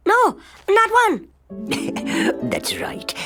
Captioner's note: chuckling